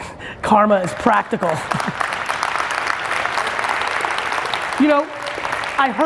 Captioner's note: audience claps